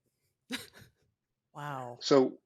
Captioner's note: laughs